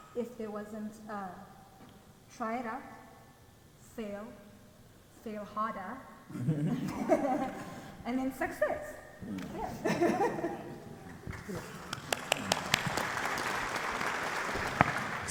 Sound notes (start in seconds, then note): 6.3 people laugh; 9.6 laughs; 11.2 audience clapping